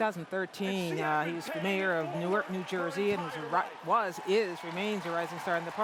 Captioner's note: cheers and applause